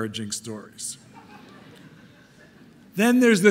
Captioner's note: audience laughing